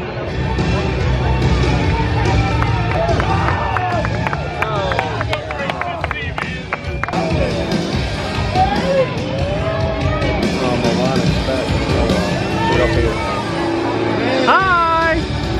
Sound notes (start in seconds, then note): 2.5 clapping; 9.6 upbeat rock music